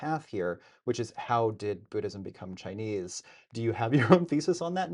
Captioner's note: laughs